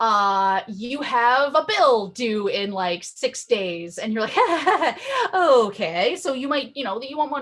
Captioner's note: laughs nervously